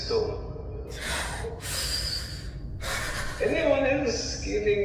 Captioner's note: cast breathes shakily